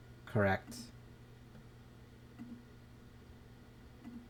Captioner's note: silence